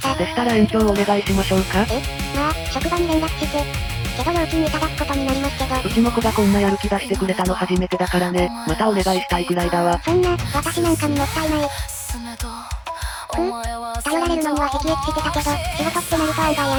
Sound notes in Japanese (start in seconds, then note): 12.9 ため息